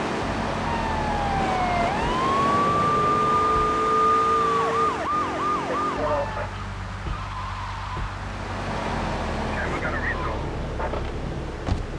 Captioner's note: sirens wailing